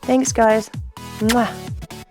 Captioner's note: kiss